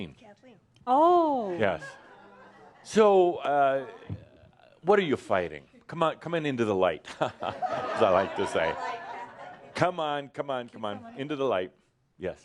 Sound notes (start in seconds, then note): 9.3 some laughter